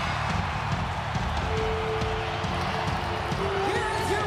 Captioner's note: upbeat music; bell ringing